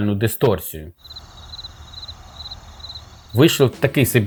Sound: the sound of a cricket

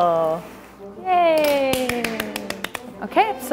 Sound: clapping

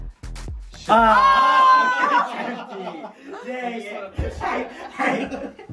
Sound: everyone laughing

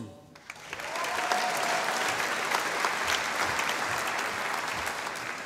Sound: audience applauding

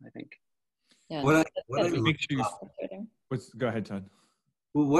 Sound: group chatters

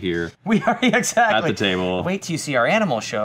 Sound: laughs

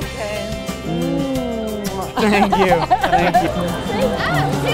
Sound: dramatic kissing, laughter

